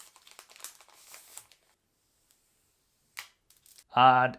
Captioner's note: plastic crackling